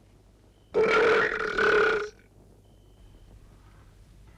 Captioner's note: Torente belches